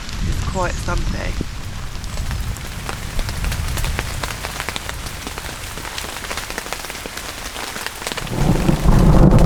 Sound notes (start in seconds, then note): 2.5 rain; 8.2 loud thunder